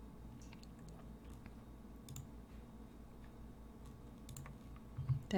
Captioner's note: sounds of clicking